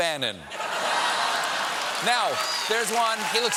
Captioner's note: laughter